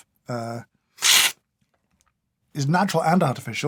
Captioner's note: slurp